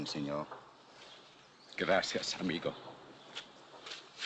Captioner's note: in spanish